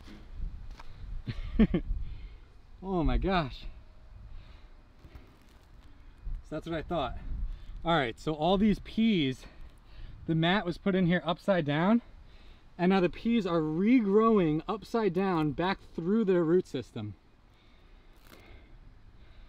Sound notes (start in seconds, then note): 1.2 laughing